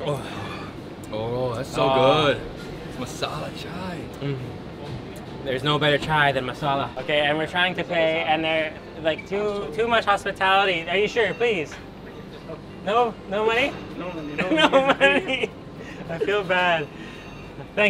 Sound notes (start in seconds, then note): 14.4 laughs